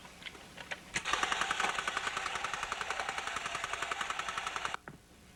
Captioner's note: mechanical noises